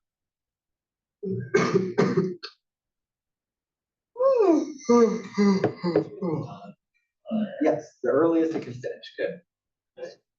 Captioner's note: cough